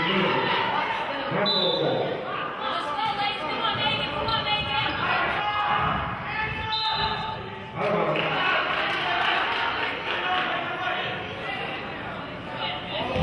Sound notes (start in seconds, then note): 1.4 whistle blows; 6.6 whistle blows; 8.1 clapping